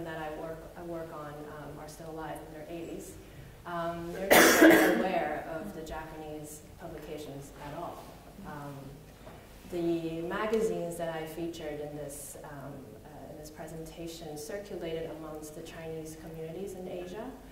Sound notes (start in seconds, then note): 4.2 coughing